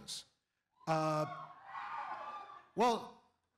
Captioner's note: cheers